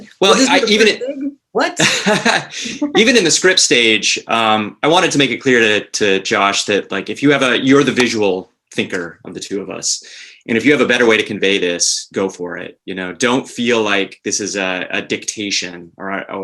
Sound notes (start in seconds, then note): 1.7 laughs